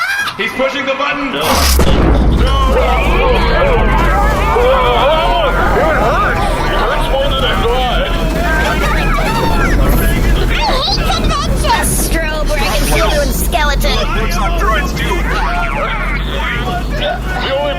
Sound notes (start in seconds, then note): 1.3 a humming force explodes from the tiny beacon; 2.5 screaming